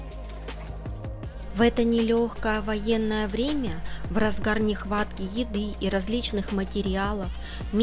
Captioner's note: voiceover